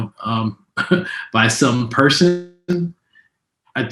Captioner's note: laughs